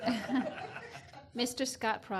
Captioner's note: laughs